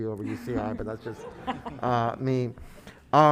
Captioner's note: laughing